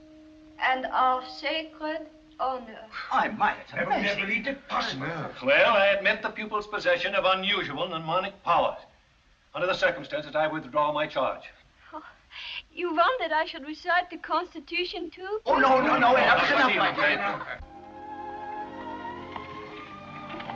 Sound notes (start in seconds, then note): 15.5 crowd; 16.3 sweeping music